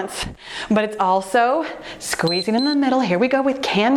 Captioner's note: timer beeps